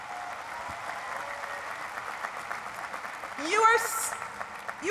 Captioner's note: cheering and applause